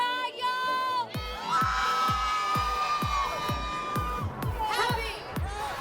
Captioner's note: crowd cheers